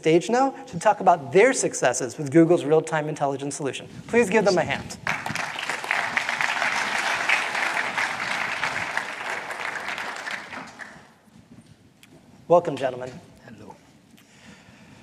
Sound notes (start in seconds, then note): 4.9 applause